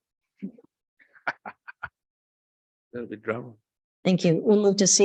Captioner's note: laughs